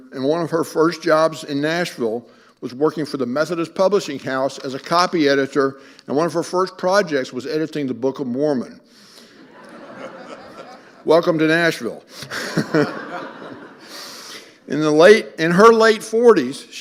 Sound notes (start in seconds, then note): 9.3 audience laughing; 12.1 all laughing